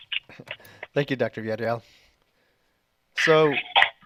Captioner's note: chuckles